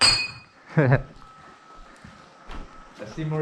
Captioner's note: laughing